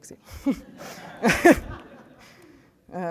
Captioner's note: laughter